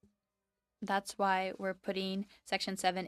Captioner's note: speaking French